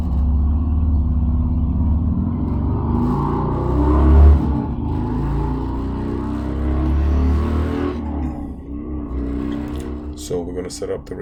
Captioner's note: traffic Sounds